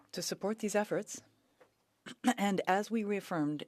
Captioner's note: speaking French